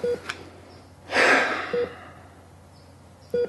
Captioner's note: breath